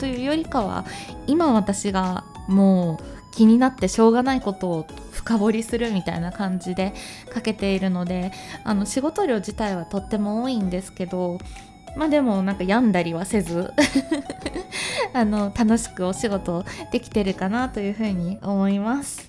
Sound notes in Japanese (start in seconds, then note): 13.7 笑い